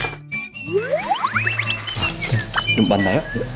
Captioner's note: pepper grind grind